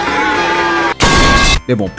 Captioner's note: metalpipesfx